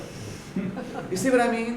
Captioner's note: laughter